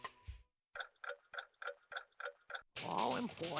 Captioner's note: clock ticking